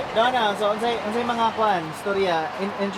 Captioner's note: speaking in foreign language